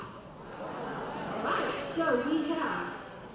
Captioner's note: laughing